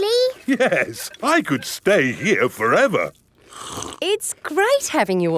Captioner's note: slurps